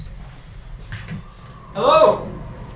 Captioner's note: wind howling